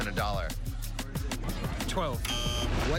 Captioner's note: buzzer